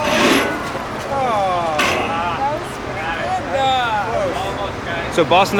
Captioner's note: sighs